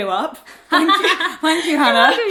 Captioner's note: Hannah laughs